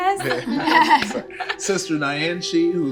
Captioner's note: laughing